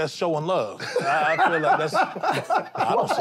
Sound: laughter

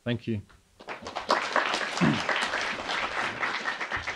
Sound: applauding

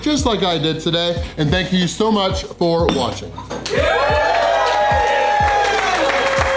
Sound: crowd clapping and cheering

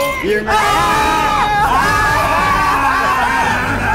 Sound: screaming

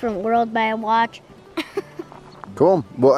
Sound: laughing

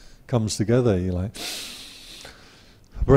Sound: breathe

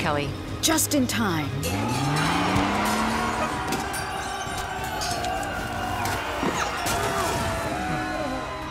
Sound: crowd cheering; motor revving

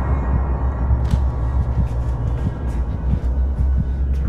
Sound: really fast heart beats

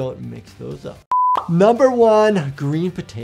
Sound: video beeping

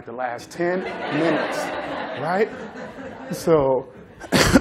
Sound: laughter

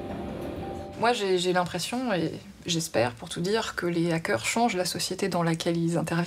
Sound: speaking in a foreign language

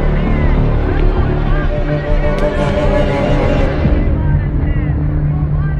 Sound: radio sound

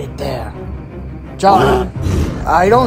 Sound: roaring

